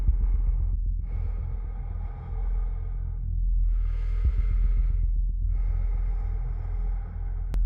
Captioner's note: ominous music; breath huffing